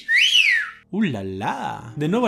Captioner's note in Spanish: silbido